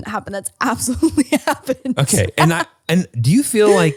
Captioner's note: laughs